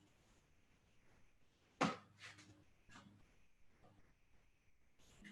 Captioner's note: silence